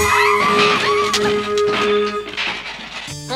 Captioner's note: crashing